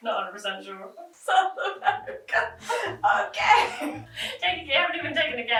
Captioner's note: laughing